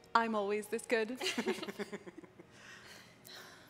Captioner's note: laughing